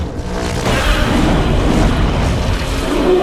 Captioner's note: Godzilla roars; King Kong roars